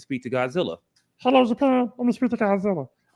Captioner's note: high-pitched voice; regular voice